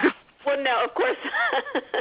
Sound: laughs

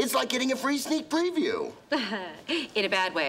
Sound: laughing

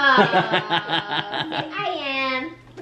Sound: laughs

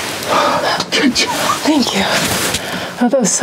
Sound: whispering

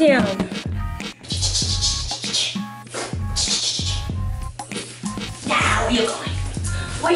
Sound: making drying noises

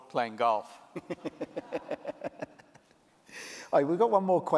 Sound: laughter

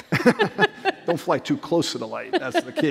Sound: laughter

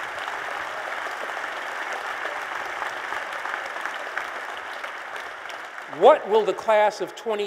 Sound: applause

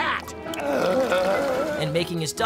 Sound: groaning

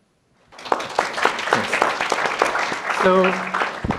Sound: applause

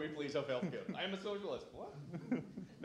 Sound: sarcastically

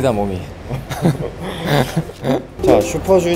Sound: hahaha

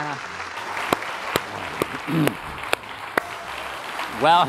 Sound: applause

